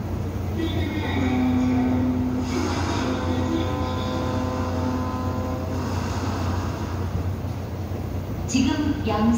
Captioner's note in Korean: 뱃고동 소리